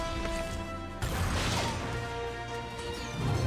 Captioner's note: metal crashing